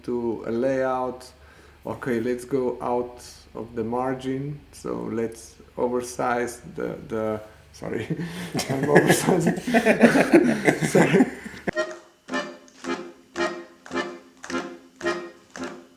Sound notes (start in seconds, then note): 9.6 everyone laughing; 12.0 upbeat music